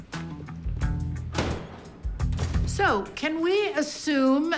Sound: door opens

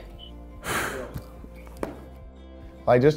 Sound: sighs

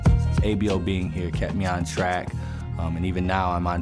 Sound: none

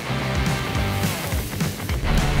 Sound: sizzling

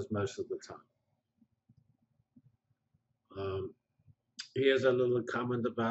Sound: pause

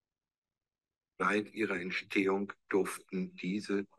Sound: speaking german

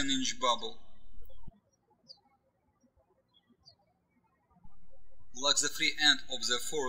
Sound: birds chirping

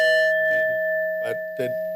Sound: timer ringing

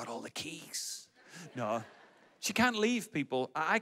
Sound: audience laughs

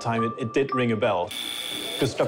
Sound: buzz

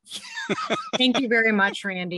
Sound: laughs

